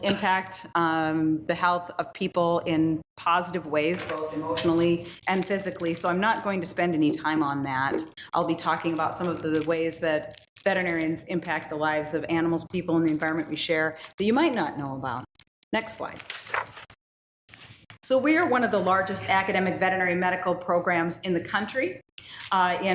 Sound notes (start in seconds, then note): 16.0 paper rustles